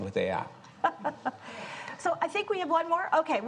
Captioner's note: chuckles